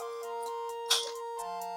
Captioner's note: clink noise